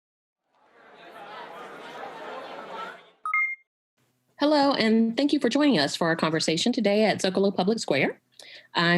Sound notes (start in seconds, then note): 0.6 crowd murmuring; 3.3 chiming